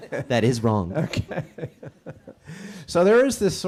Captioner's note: laughing